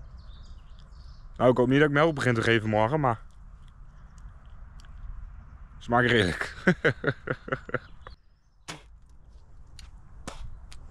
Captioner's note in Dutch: Gelach